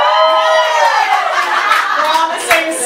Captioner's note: cheers and applause